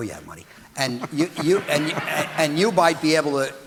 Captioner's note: audience laughing